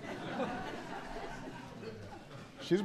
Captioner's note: laughter